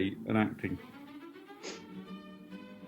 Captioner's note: snorts